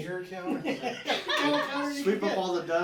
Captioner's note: laughing